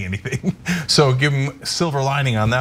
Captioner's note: laugh